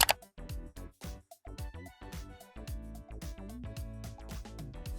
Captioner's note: camera shutter snaps